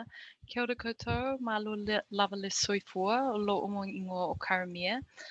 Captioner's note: speaks in foreign language